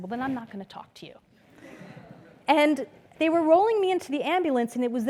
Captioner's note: laugh